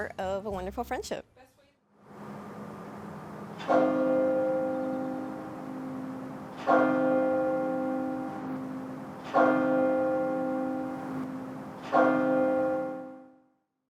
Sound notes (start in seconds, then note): 3.8 bell ringing